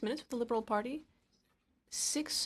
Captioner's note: speaking in French